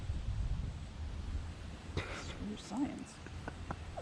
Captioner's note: laughing